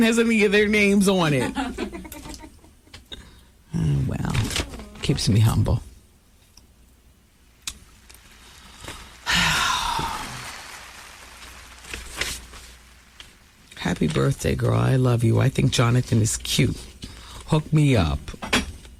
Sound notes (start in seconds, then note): 1.3 laughter; 7.9 applause; 8.5 sigh